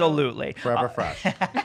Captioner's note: laughing